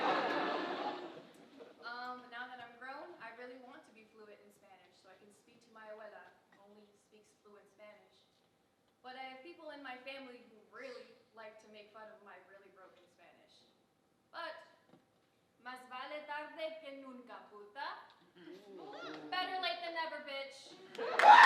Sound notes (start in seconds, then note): 0.0 audience laughing; 14.5 speaker talking in foreign language